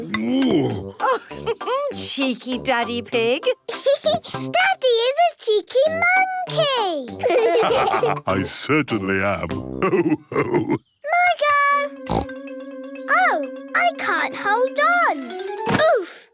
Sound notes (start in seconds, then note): 1.0 laughs; 4.0 laughs; 7.2 all laugh; 12.0 snorts